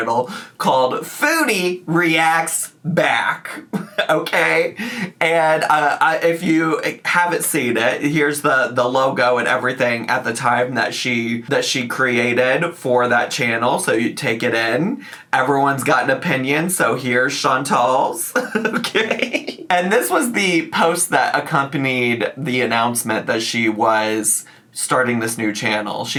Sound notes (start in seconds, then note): 18.3 laughs